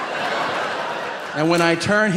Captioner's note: audience laughing